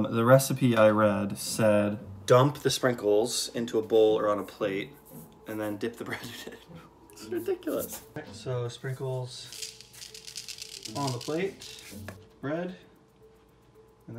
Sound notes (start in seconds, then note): 6.0 chuckles